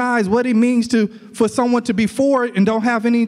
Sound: none

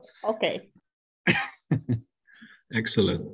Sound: chuckles

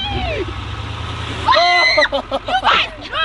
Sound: screaming

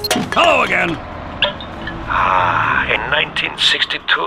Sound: sound of a wine bottle being uncorked

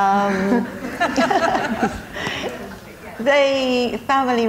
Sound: audience laughing

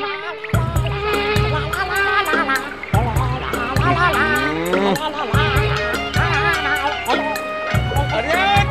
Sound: humming

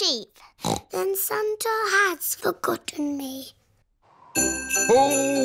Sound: snorts

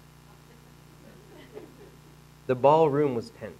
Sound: audience laughing

